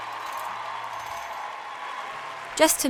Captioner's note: audience applause